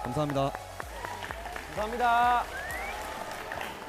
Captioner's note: Applause from the BAND POOL